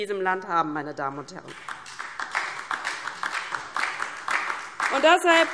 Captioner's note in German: Beifall DIE LINKE und vereinzelt SPD